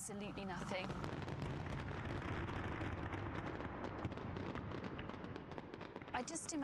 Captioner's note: explosions thundering and popping